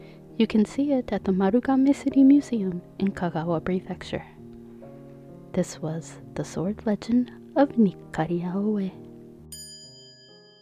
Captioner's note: small chime